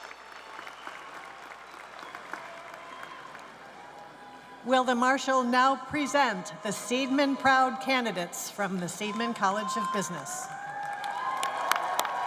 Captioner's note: cheers and applause